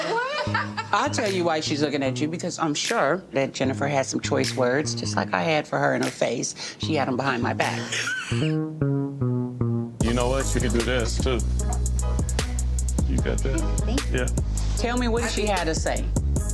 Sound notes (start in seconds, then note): 0.0 laughs; 7.9 wheezes; 10.0 upbeat electronic music